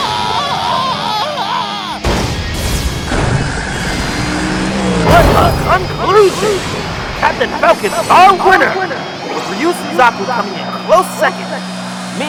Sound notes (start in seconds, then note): 2.0 clunk!; 2.6 skid; 3.1 metal scraping; 5.1 crash!